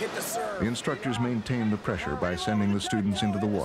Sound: voiceover

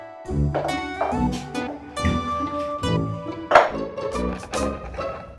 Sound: shell hitting floor

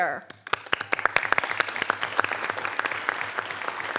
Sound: audience applauding

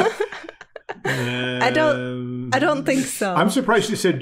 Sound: laughing

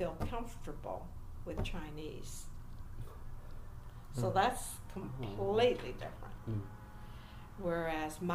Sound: interviewers hum assent

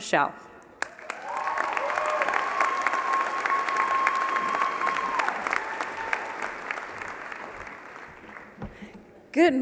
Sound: applause

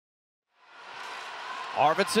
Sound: crowd cheering

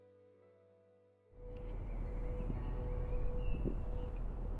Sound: birds chirp

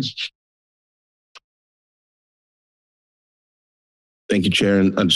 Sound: silence

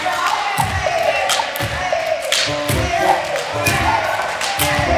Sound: cheering and encouraging

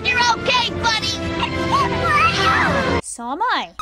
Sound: squeals happily

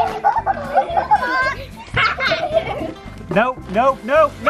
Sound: laughing

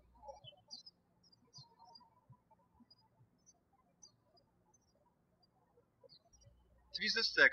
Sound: birds chirping

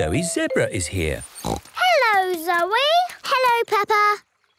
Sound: snorts

